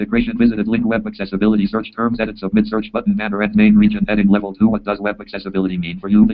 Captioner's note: JAWS speaking